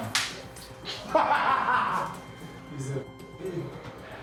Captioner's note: laughter